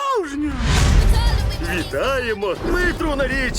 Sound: thunder rumbling

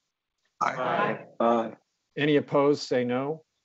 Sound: multiple voices

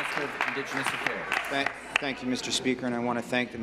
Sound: applause

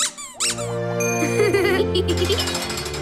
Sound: giggling

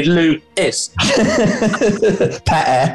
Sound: laughter

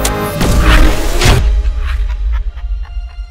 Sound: sci-Fi Explosion

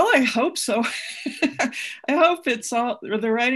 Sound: laughs

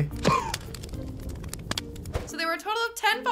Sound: fire crackling; smoke puffs

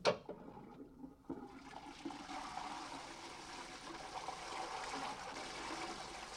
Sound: toilet flushes

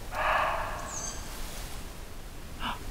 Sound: muntjac barking; cute squeaky bird

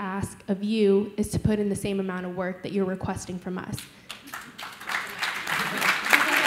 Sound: clapping

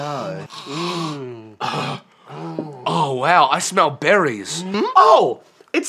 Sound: sniff

